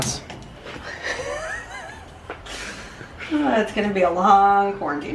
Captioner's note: laughing